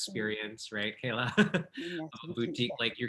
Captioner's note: chuckling